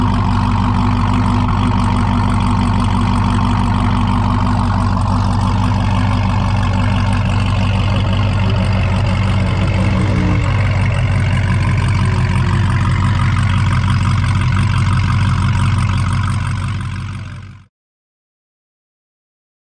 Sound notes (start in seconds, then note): 5.0 car engine running